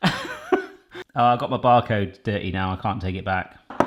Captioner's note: laughs